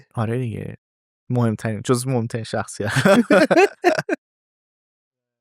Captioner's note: laughs